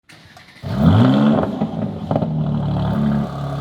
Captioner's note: engine revving